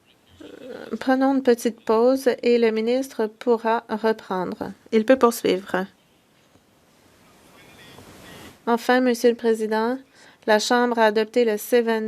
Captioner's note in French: voix de l'interprète